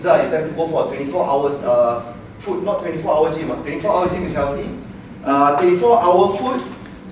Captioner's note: none